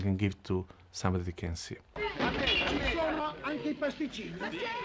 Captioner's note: people chattering